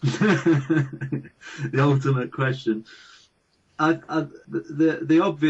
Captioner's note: laughing